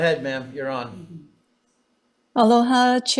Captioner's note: chuckling